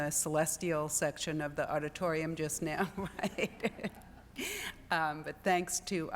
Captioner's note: laughs